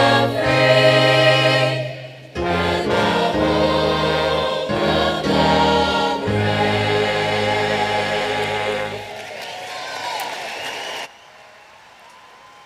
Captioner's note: applause